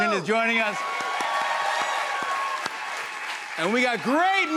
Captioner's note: cheers and applause